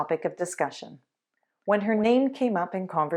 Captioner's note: none